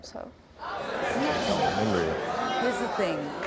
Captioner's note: audience laughing